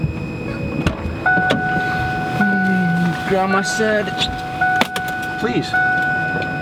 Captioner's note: car beeping